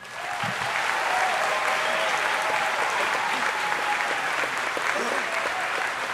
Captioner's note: audience applauding and cheering